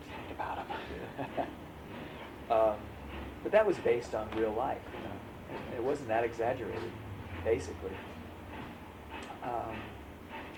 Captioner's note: laughs